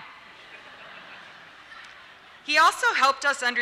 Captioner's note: laughter